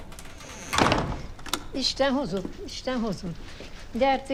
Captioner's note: speaking romanian